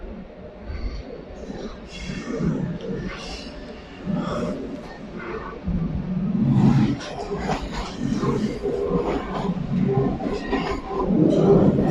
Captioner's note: loud train pulling into station